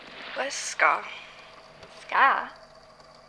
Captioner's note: feathers rustling; slower, almost sleepily